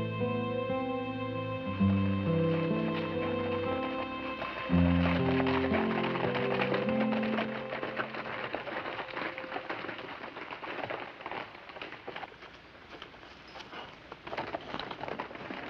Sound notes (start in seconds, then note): 3.5 horse hooves clacking